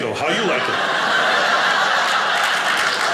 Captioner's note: audience laughing; audience applauding